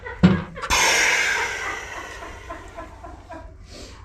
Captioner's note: laughter